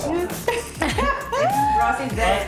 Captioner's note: laughs